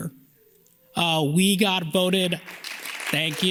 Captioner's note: audience claps